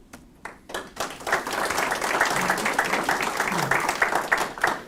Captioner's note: audience clapping